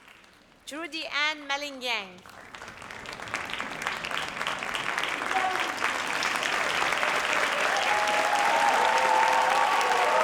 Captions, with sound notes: Judy Ann Malingyang. (audience cheers and applauds)